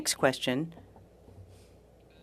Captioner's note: speaking french